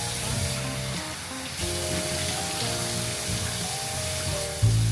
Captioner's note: splash splash